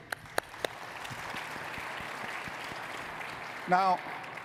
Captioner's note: audience applauding